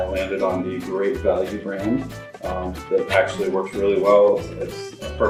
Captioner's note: none